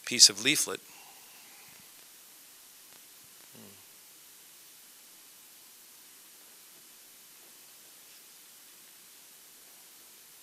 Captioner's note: silence